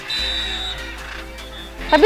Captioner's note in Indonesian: Peluit